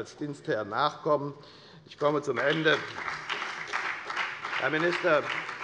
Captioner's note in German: Beifall bei der FDP und der SPD